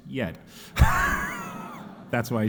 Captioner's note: audience laughing